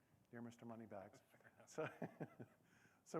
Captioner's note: laughter